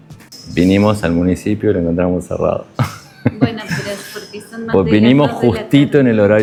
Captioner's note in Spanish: risas